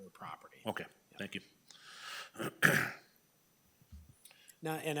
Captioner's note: clears throat